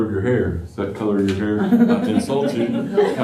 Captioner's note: laughter